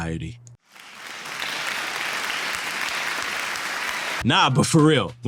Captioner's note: applause